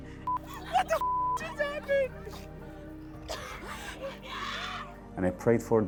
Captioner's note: beep